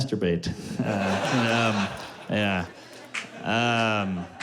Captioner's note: laughter